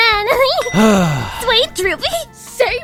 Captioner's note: sigh